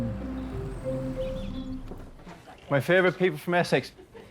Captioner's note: bright music; birds chirping